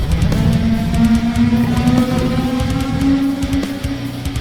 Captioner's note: tentacle beast blares